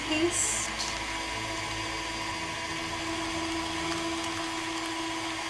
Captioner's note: blender whirling